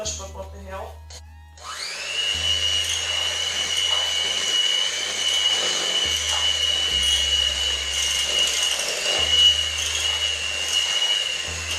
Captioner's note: mixer buzzes